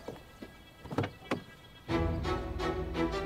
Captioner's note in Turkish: Kapı Açılıyor